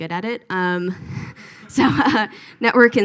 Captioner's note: all laugh